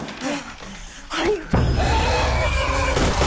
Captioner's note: shrieks